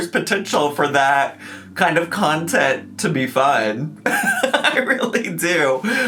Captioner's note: laughs